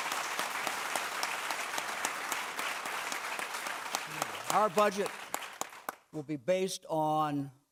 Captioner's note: clapping